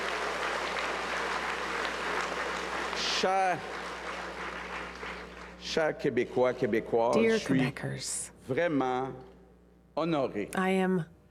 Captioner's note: cheers and applause